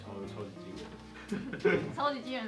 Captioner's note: laugh